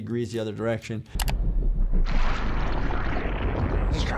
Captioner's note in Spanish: clic